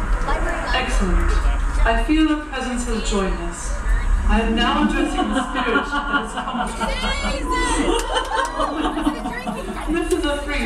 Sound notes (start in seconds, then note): 4.8 laughter from the crystal ball